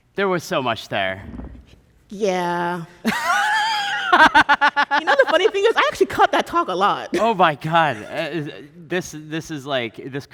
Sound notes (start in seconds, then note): 3.0 laughing